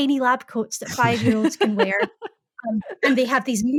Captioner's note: laughing